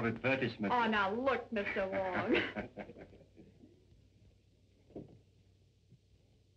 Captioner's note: laughter